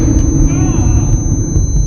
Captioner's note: groaning; tinnitus